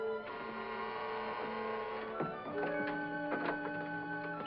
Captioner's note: doorbell buzzes